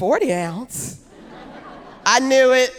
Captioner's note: audience laughing